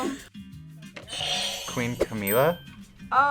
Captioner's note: buzzer rings